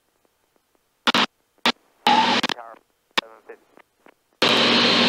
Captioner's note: radio static